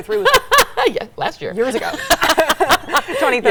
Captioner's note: laughs; both laughing